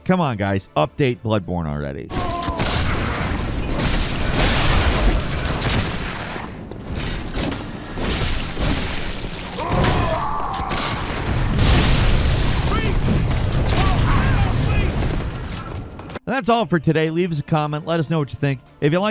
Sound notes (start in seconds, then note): 2.6 sword crashing and whooshing; 9.6 creatures grunting and groaning